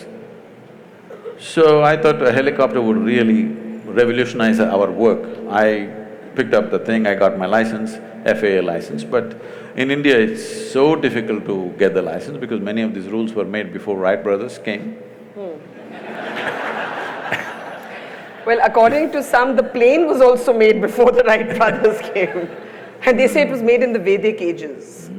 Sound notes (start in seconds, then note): 15.8 laughter; 22.1 laughs